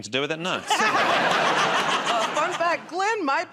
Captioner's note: laughter